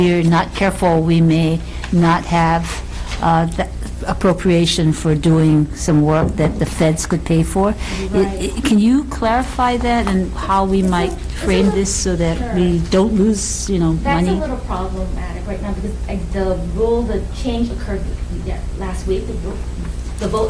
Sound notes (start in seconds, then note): 7.9 woman mumbling